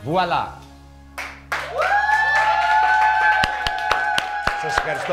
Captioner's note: group cheers